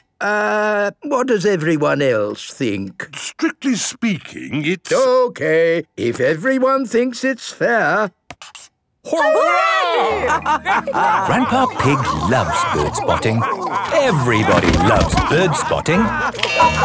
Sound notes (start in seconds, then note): 10.0 all laughing